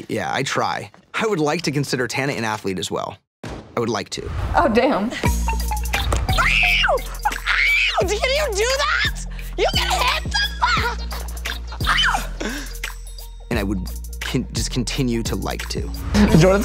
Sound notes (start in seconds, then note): 6.3 Tana screams; 11.9 screams